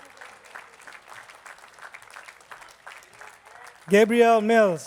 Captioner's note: attendees clapping